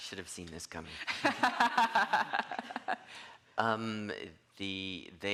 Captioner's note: all laughing